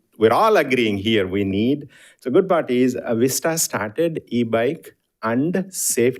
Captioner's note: none